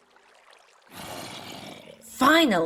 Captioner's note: zombie Groans